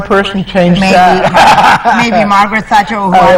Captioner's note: chuckles